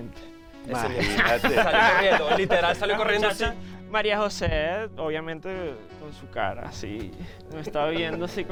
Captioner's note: laughs